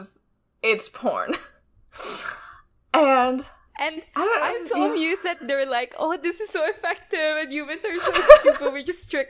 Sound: laughs

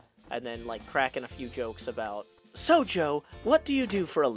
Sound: higher voice

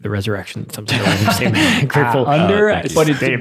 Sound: laughs

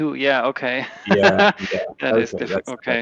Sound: laughs

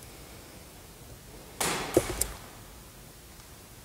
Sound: thud!

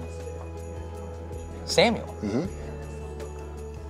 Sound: mmhmms

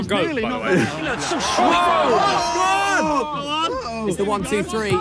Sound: players exclaim; audience cheers sound plays

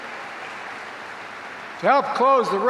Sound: applause

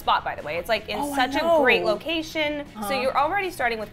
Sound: excitedly

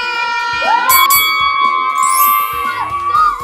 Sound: cheering

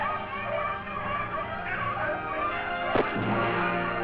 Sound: gunshot

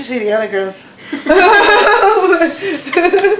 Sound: laughter

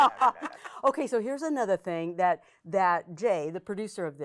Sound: women laughing

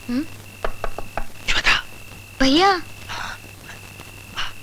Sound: window knocking

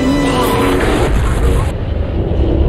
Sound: teletransport teletransporting

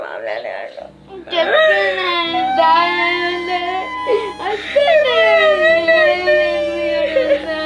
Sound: both crying

